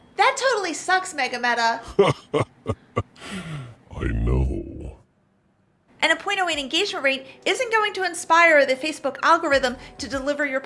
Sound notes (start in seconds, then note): 1.8 laughing